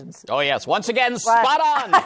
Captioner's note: laughs